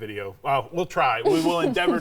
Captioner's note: laughing